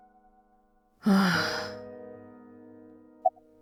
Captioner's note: exhales